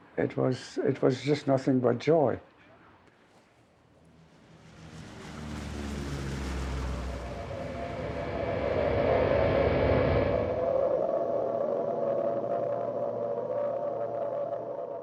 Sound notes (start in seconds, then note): 6.6 airplane whirring; 10.2 air raid sirens blaring